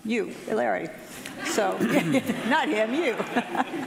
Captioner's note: audience laughing